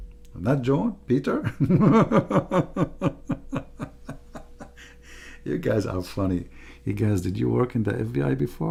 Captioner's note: Ketawa